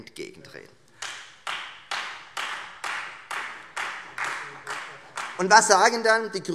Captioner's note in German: Beifall Freie Demokraten